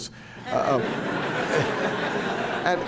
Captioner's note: laughter